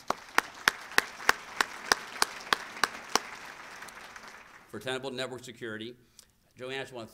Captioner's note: applause